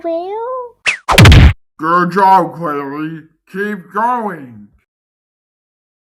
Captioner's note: whack!